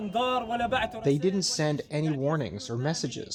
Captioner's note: through translator